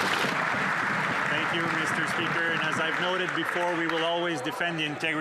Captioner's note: some Applause